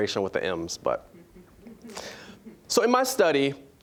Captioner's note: scattered chuckling